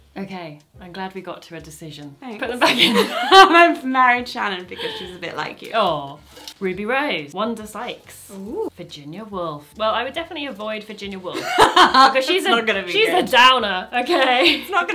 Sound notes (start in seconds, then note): 2.6 she laughs